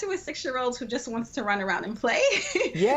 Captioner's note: laughs